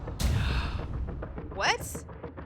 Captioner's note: gasps